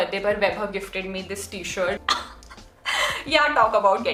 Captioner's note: chuckles